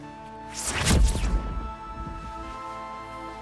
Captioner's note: zapping